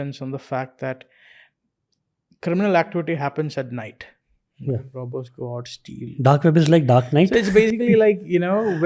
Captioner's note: chuckles